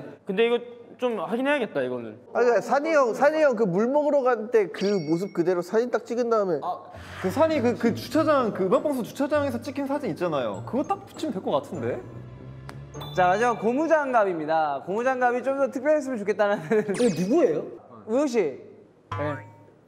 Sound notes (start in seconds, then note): 12.6 snap